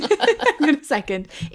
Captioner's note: laughing